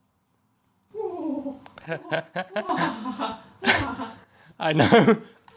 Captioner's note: laughter